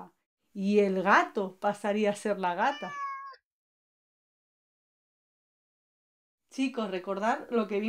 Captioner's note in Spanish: maullido